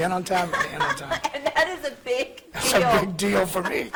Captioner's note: laughing